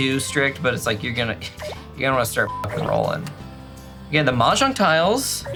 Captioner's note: beep